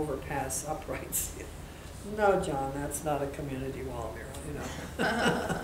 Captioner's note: laughing